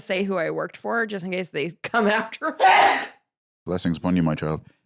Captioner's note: sneezes